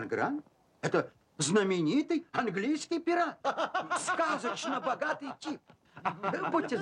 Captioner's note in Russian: смех